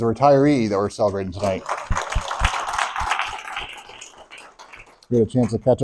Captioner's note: applause